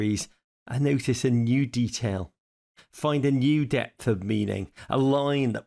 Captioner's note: none